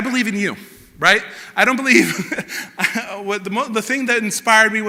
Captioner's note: laughter